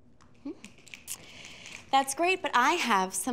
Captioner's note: fingers snapping